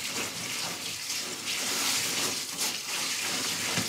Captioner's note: rushing water